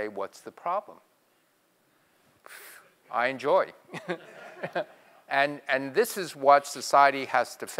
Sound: laugh

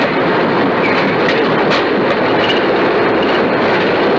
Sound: thrust Reverse Deployed sounds

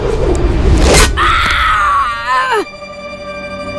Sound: screaming

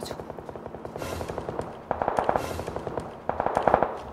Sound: footsteps?!!

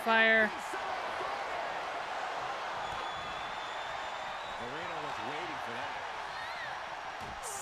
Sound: applause

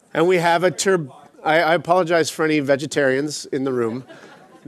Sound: laughter

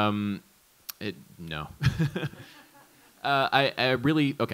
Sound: laughs

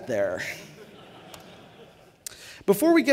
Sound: laughter

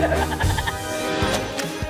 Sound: evil cackling

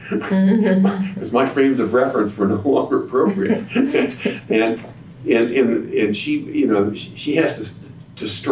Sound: laughter

